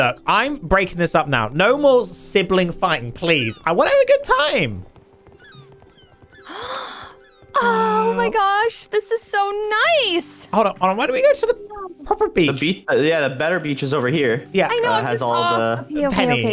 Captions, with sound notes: - I'm breaking this up now, no more sibling fight please, we're having a good time. (gasp) - Oh my gosh, this is so nice! - Hold up, hold on, why don't we go to the proper beach? - Ya the better beach is over here. - Yeah.